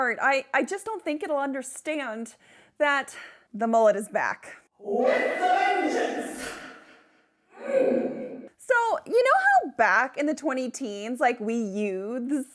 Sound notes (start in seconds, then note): 7.6 grunts